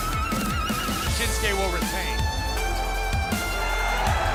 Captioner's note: crowd cheering